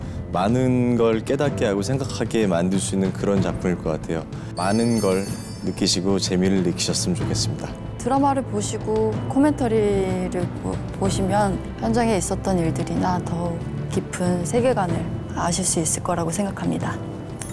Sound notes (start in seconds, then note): none